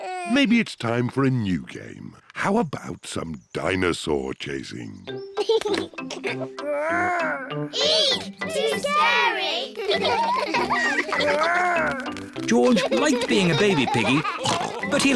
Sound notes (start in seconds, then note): 5.4 giggles; 12.4 all laugh